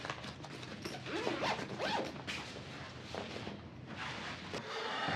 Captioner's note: zipper closing